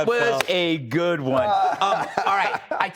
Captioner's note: laughter